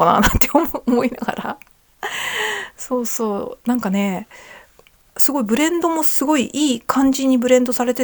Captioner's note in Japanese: 笑い; 息をのむ音